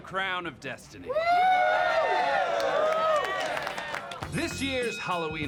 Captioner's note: crowd cheers